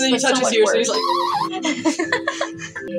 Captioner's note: laugh; snicker; Miku Screech